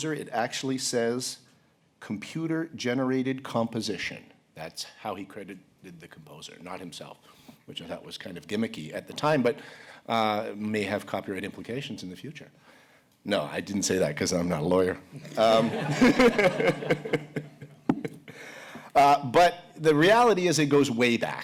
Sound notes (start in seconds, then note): 15.2 laughter